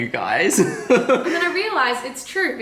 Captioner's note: laughter